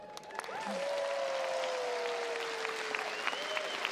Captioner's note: crowd applauds